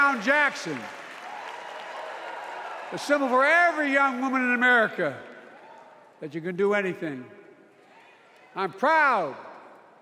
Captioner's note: cheers and applause